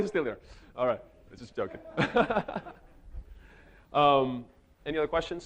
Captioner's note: laughs